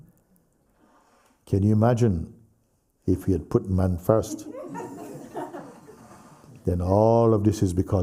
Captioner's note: laughter